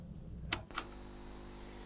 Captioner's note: screen humming; button clicks; viewer breathing